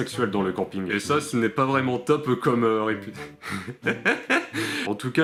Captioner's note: laughs